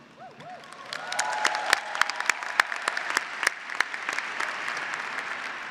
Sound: graduates and faculty applauding

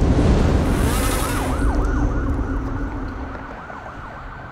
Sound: siren wailing

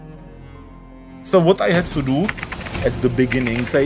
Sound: furious typing

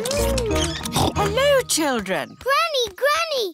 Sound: snorts

